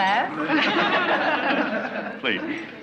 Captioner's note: laughing